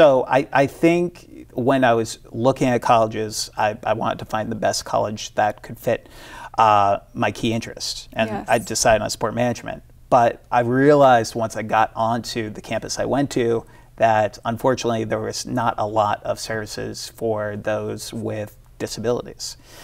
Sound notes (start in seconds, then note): none